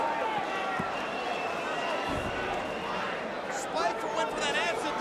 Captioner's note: crowd vocalizing